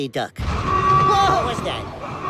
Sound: alarms going off

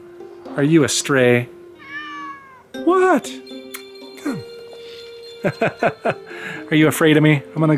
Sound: cat meows; laughter

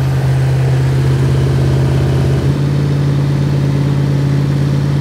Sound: engine running

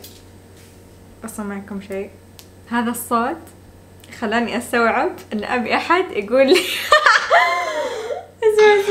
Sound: hysterical laughter

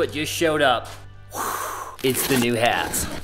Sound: deep sigh

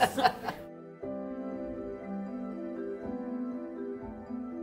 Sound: chuckles; serene music

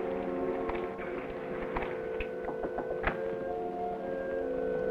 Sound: tapping on door

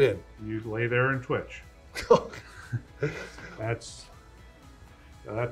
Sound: laughing

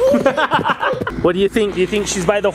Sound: laughter

